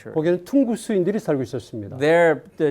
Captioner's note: speaking in Korean